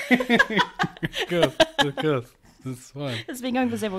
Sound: laughs

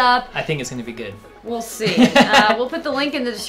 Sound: laughs

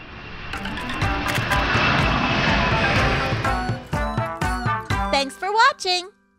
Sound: jet engine roaring; upbeat music

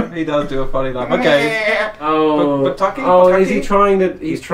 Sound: bleating sound

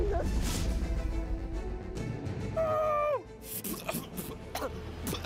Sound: splutters

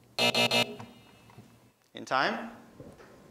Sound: buzz

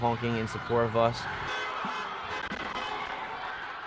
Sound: cars honking

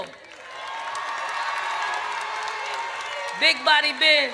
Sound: audience cheers

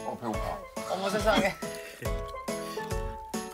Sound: slurping down

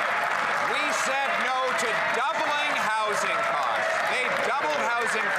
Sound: some Applause

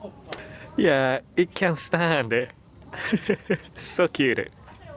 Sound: chuckles

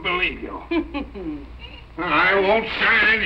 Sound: laughing

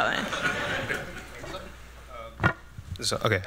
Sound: laughter

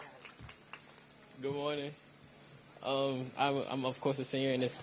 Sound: applause

